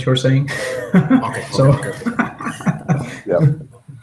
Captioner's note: laughter